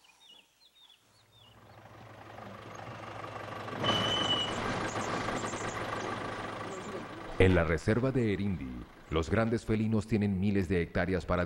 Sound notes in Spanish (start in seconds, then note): 0.0 sonidos selváticos; 1.5 sonido automotor